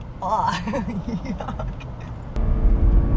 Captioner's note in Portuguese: risos